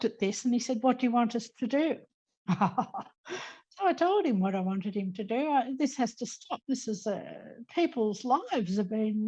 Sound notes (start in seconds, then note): 2.5 laughing